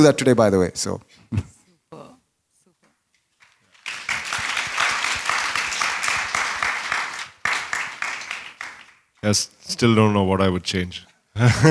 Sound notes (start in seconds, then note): 3.4 applause